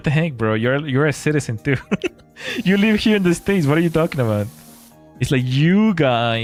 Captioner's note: laughter